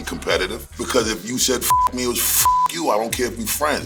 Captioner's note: beep